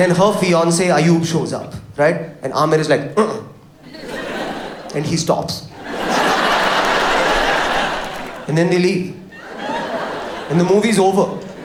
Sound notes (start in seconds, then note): 5.7 audience laughs